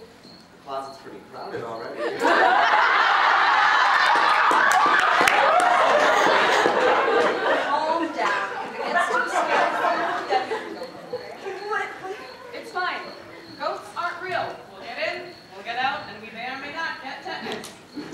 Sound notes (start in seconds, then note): 2.0 audience laughter